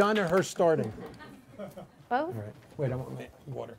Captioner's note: woman and man laugh